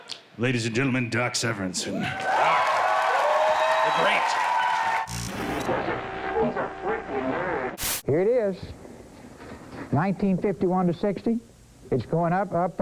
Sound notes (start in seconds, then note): 2.1 applause; 5.0 static